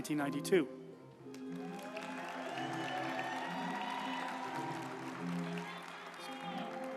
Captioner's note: uplifting music; group applauding